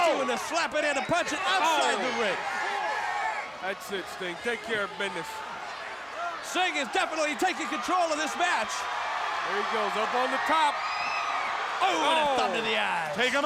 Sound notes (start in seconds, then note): 8.7 crowd cheering; 11.0 crowd cheering